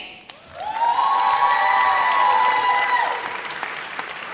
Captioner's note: audience cheers